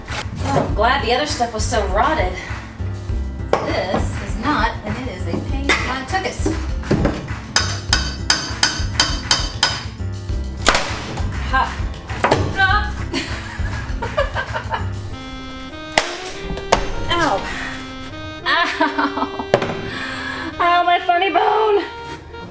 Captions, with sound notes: I'm glad the other stuff was so rotted. This is not, and it is a pain in my tuckus! Ah ha! AHHHH! (laughing) OW! Owwwwwwwwww! Oh my funny bone.